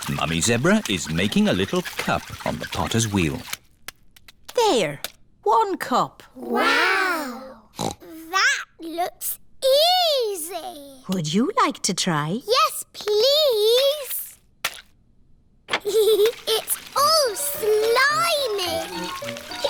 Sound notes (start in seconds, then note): 7.7 snorts; 15.8 giggles